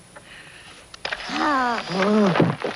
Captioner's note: camera snapping